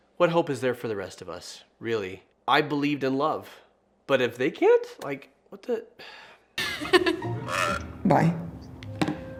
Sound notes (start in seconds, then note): 6.3 sighs